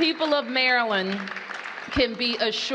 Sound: applause

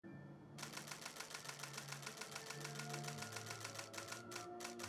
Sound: sound of shutter clicks in "C" continuous drive mode; shutter clicks slowing down, laboring

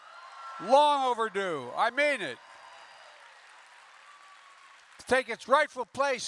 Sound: applause

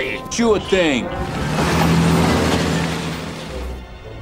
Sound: car driving off

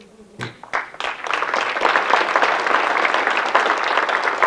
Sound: audience clapping

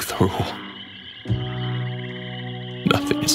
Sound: swamp animals chattering continues; somber music

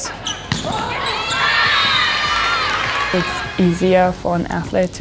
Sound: team cheering

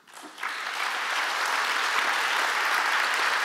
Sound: applause

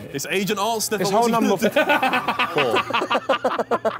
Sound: laughing

